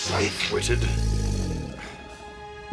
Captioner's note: growls